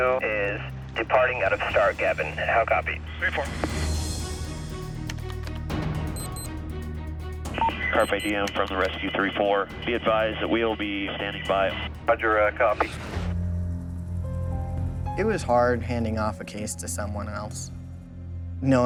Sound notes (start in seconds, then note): 5.2 keys typing; 6.1 watch alarm beeping; 7.5 beep; 13.7 ominous music